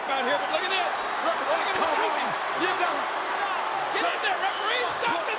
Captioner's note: spectators cheering